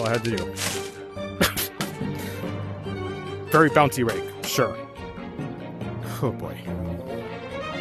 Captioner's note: laughs